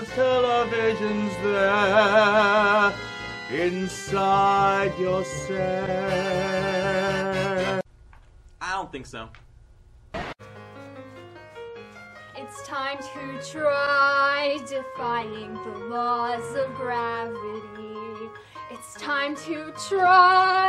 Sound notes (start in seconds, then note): 10.0 channel changes; 10.1 instrumental Music